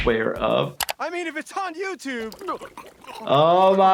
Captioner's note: gulps